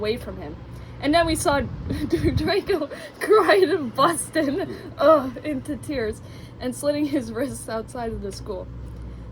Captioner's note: laughs, moans